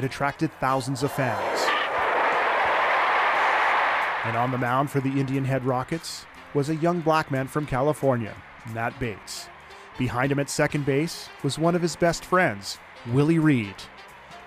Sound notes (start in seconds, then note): 7.3 cheers and applause